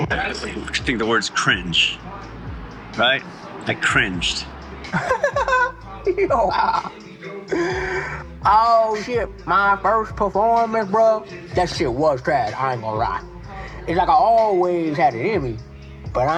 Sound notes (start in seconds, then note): 4.4 laughing